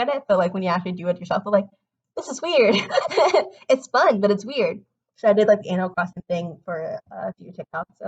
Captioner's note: laughs